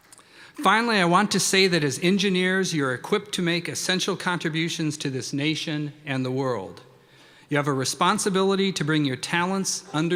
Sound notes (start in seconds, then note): none